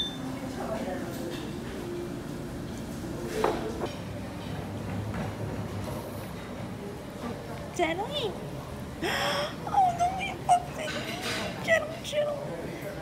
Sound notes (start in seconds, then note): 9.0 gasp